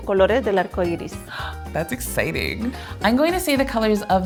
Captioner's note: gasps